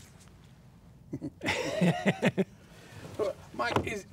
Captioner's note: laughing